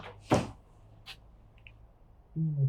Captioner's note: door closes